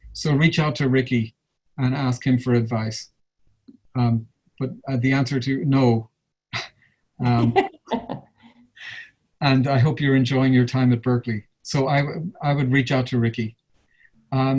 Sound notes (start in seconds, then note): 7.2 laughs